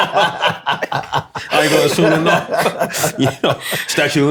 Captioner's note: laughter